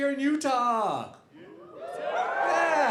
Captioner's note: audience cheering